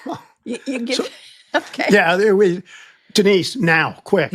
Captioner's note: laughing